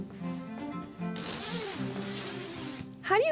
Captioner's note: zipper zippering